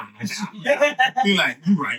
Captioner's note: laughing